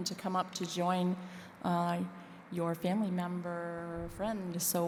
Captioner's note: none